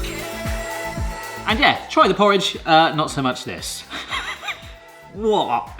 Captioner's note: upbeat music; laughs